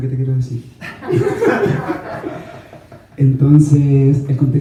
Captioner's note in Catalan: rialles